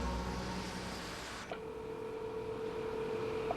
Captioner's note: ringing continues